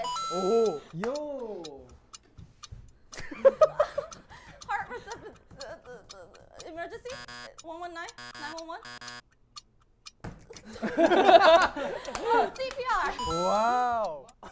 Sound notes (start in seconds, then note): 3.2 laughter; 10.6 laughter